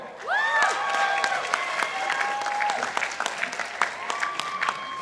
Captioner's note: participants applauding